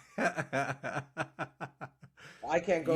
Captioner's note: laughs